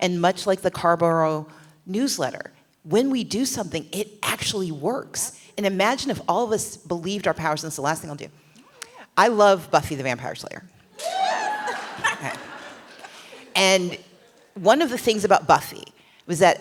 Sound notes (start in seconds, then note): 10.9 cheering; 11.0 laughter